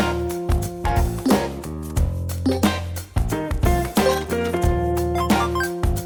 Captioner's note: jazz music; electronic beeping and chiming